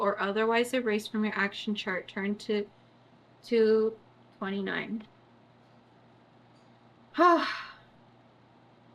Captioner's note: sighs